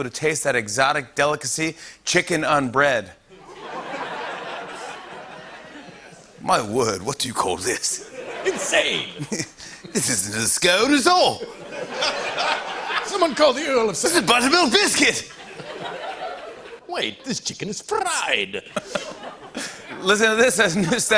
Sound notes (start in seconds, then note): 3.4 laughter; 6.3 British accent